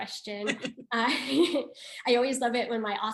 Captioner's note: laughing